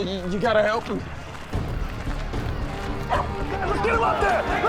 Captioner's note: crowd clamoring